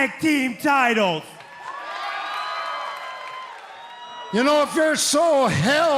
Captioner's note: cheers and applause